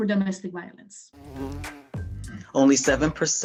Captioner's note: bee Buzzing